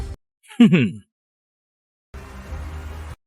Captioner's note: chuckles